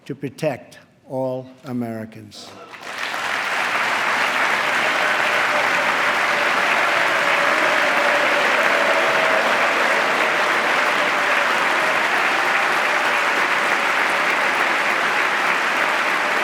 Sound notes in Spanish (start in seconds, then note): 2.4 aplauso